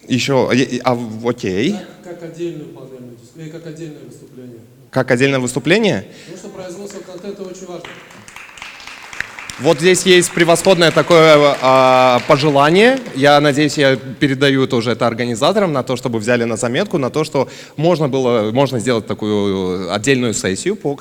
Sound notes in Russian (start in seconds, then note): 6.7 аплодисменты